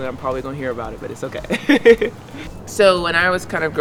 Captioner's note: chuckles